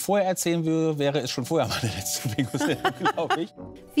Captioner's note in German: Lachen